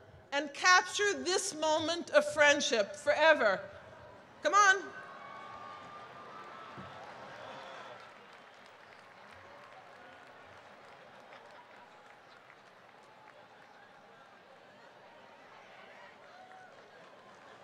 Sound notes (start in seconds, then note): 5.3 applause; 13.6 laughter